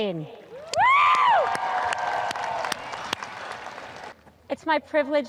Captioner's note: audience applause; woman screams